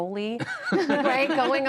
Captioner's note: laughter